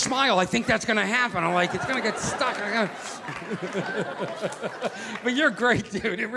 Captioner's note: chuckling